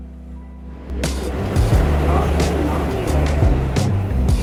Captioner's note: train roaring